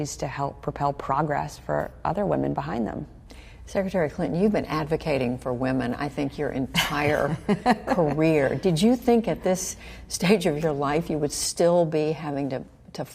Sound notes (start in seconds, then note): 8.4 laughter